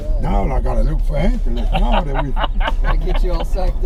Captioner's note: laughter